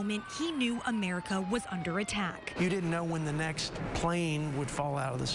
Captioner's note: sirens